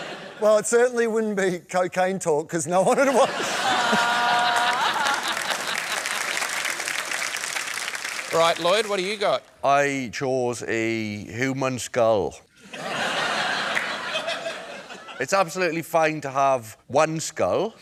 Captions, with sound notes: Well, it certainly wouldn't be cocaine talk, because no-one would want...! Ha! (LAUGHTER AND APPLAUSE) Right. Lloyd, what have you got? I chose a human skull. (LAUGHTER) It's absolutely fine to have one skull...